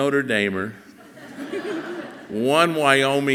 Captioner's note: audience laughing softly